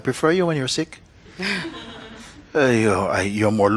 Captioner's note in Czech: Smích